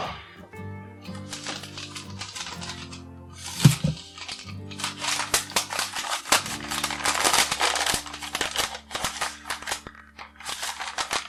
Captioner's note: sound of paper tearing